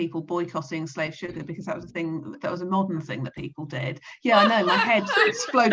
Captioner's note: all laugh